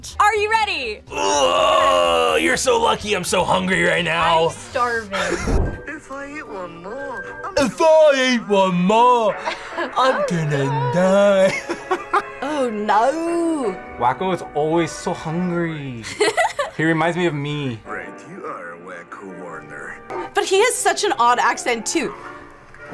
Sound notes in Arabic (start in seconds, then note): 9.4 يضحك; 16.0 يضحك